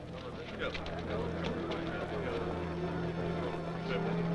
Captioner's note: men murmuring